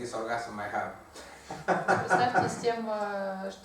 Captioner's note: hahaha